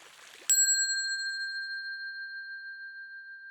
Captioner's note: bell dinging